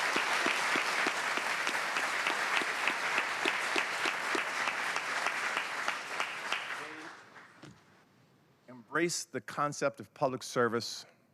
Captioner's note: applause